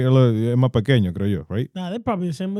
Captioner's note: speaking In Foreign Language